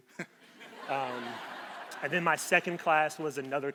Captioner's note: crowd laughing